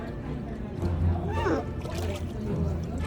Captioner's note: sea Otter squeaks